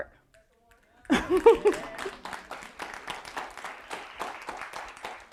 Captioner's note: audience applauding